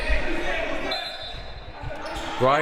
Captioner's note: whistle